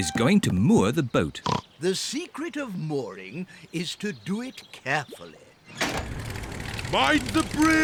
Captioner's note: oinks